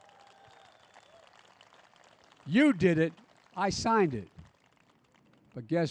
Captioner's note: applause